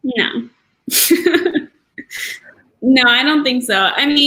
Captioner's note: laugh